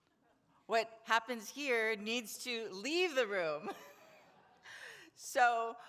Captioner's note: laughs